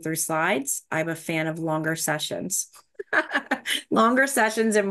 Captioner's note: laughs